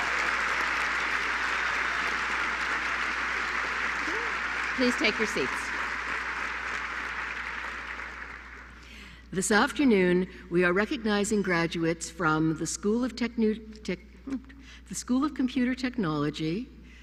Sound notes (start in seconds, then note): 5.7 applause